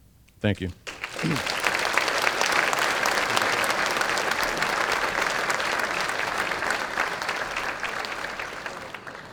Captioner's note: applause